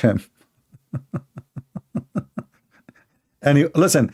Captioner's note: Ketawa